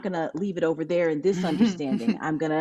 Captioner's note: laughs